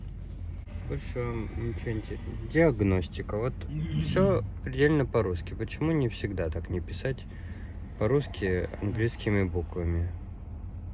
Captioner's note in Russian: снова читает на латышском